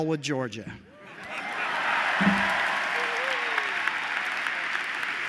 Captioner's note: applause